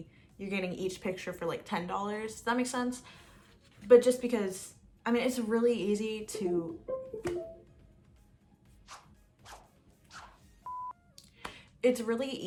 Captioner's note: windows computer noise